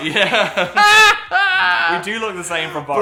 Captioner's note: Dan laughing; laughing